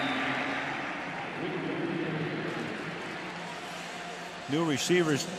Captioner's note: whistle; pa announcement